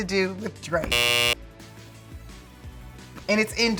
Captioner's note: buzzer sounding